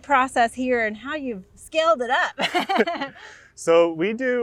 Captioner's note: laughs